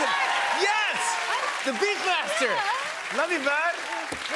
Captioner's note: applause